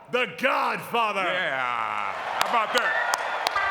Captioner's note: audience clapping; upbeat music